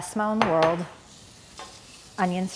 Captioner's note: pan sizzling